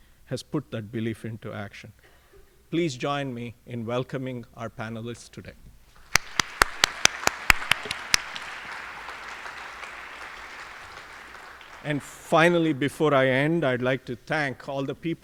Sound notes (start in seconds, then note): 8.7 applause